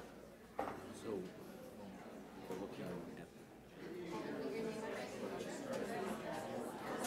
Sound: group chattering

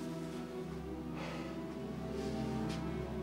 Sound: sighs

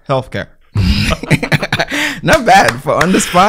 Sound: laughter

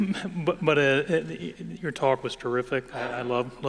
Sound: laughter

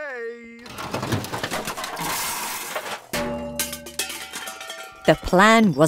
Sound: objects clattering

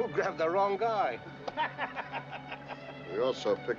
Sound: laughing

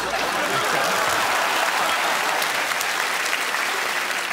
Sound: cheers and applause; laughter

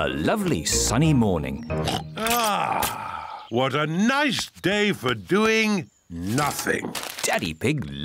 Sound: oinks

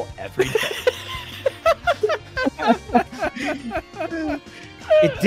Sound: laughter

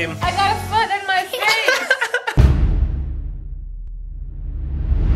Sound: children giggling

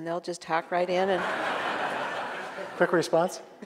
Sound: audience laughing

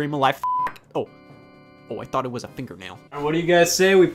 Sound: beep

